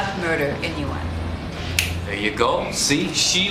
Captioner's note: snaps fingers